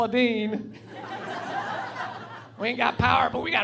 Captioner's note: laughing